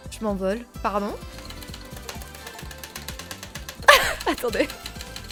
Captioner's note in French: bruit de spam frénétique de la touche espace